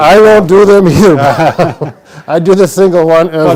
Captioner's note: laughter